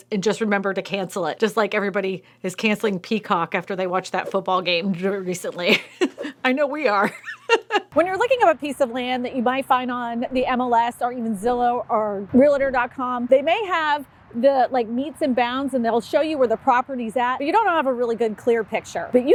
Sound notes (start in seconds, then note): 5.6 laughs